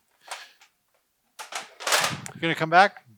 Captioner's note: gear rustles